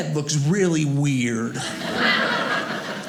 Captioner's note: audience laughing